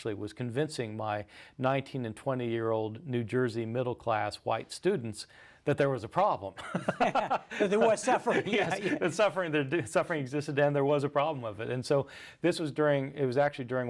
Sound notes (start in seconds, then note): 6.6 both laugh